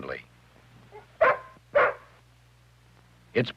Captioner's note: barking